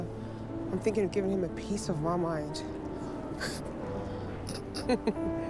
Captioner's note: laughs